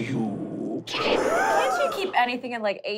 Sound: wooshing

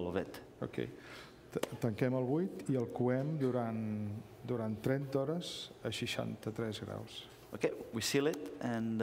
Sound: speaking catalan

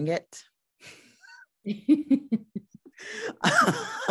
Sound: both laugh

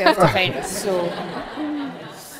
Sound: audience laughs

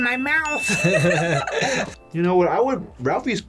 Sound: bell rings; both laugh

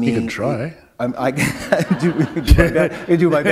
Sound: laughter

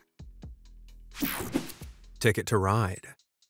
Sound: screen whooshing

